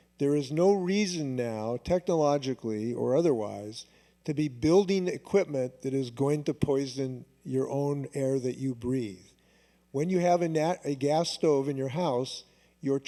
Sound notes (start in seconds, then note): none